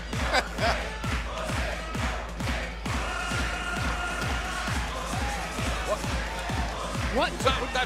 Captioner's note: laughter